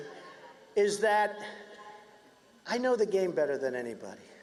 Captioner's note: cheers and applause